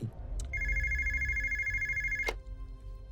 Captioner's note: phone ringing